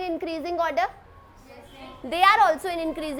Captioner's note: students agreeing